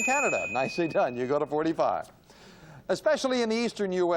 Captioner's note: ding